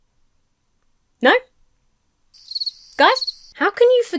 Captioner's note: crickets chirping